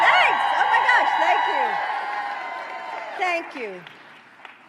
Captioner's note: applause